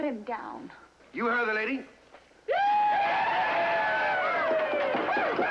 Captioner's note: whooping, Cheering